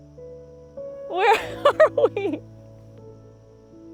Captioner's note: laughing